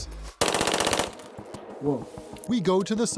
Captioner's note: rapid gunfire